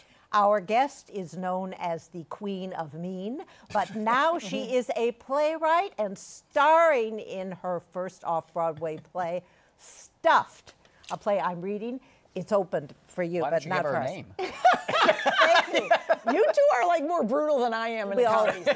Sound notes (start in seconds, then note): 14.4 laughter